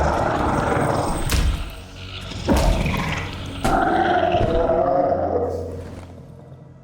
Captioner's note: villager groans; punches thudding